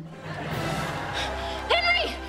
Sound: laughing

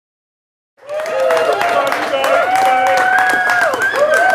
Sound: applause

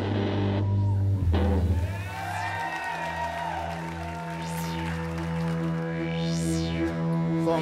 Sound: applause

